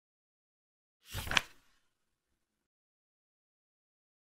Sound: page flip sound

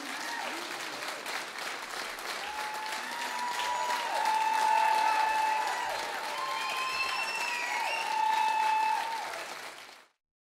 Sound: applause

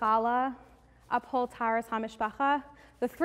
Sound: Hebrew

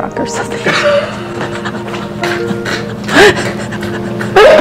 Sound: laughing

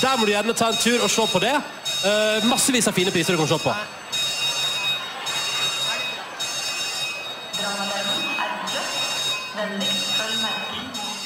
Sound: the fire alarm rings

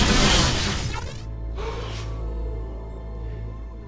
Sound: gasping

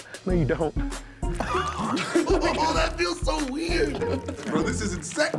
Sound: laughter

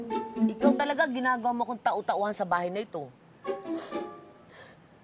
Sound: sniffs

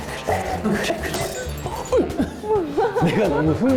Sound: falls

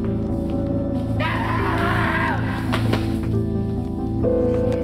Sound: screaming

